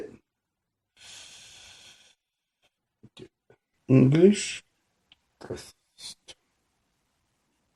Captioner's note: breathing